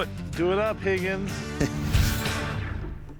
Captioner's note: chuckles